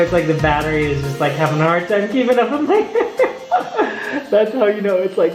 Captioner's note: laughs